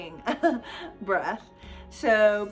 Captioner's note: chuckles